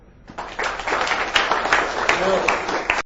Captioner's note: audience clapping